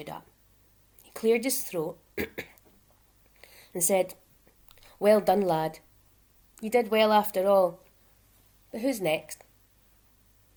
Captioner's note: clears throat